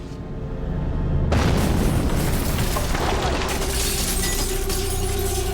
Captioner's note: explosion